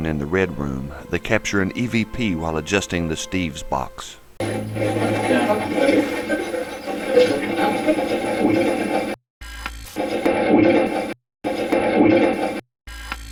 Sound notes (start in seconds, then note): 4.4 static playback transmitting; 9.6 static fizzing